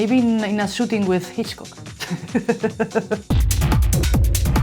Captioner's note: laughs